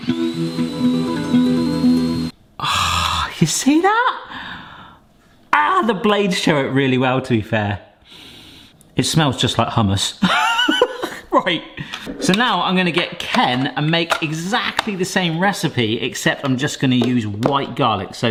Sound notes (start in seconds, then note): 0.0 whines; 2.6 proud sigh; 8.2 sniffs; 10.8 laughs